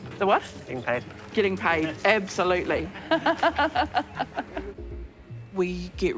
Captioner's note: laughs